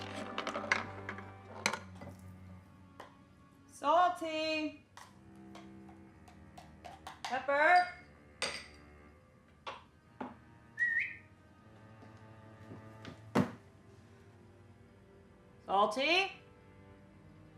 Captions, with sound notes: (marble rattling) - Salty! (somber violin music) Pepper! (whistling) Salty!